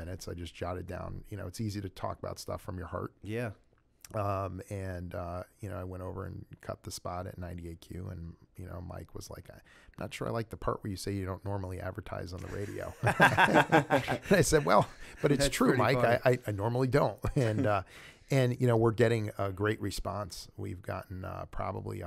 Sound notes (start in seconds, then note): 12.4 laughter